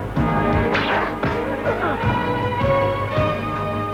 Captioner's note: man groans